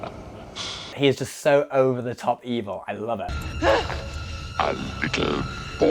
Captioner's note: evil laugh